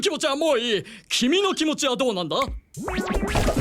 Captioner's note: snap!